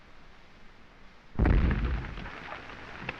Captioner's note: explosions